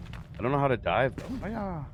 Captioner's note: fire crackles